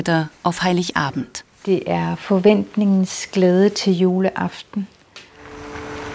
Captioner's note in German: Sie spricht auf Dänisch fertig